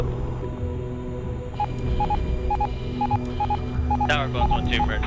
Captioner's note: instruments beeping